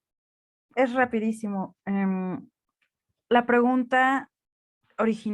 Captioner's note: speaking in Spanish